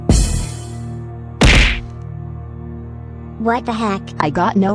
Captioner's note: crash